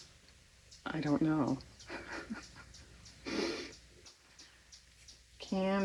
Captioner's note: laughs